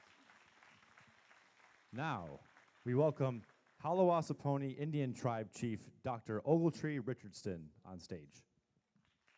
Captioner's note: applause